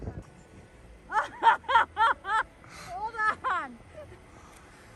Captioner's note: woman laughing